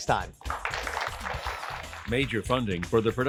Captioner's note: applause